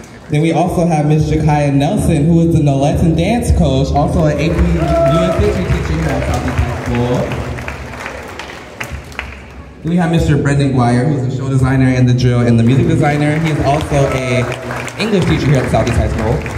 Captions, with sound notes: Then we also have Miss Jakaia Nelson who is the Nolettes and dance coach also an AP History teacher here at Southeast High School! [Cheers and Applause] We have Mr. Brendan Guyre who’s the show designer The drill and the Music designer He is also a English teacher here at Southeast High School. [Cheers and Applause]